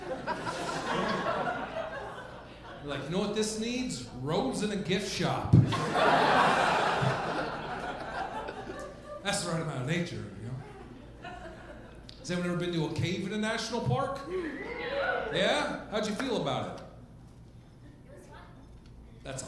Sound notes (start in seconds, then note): 5.6 audience laughing; 14.3 crowd cheers